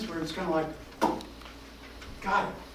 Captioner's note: popping sound